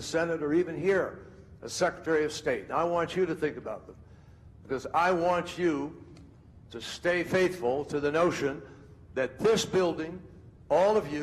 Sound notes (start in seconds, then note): none